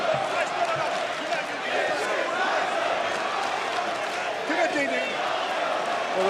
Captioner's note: crowd chants